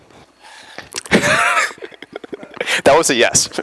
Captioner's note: laughter